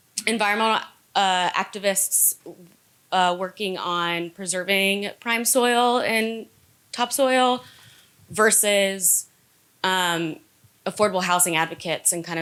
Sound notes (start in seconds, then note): none